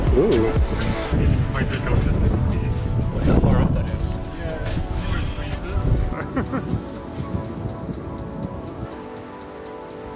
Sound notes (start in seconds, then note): 6.1 laughs; 7.5 soft music